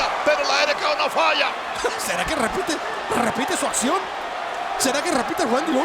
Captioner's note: laugh